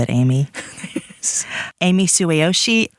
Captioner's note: laughs